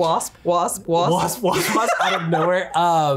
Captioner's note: laughs